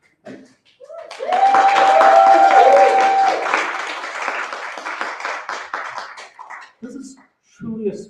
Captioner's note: applause